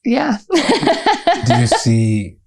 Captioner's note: laughter